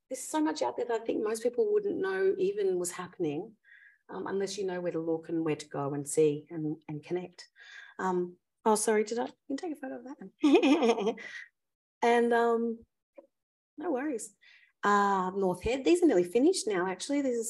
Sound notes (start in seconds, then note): 10.5 laughs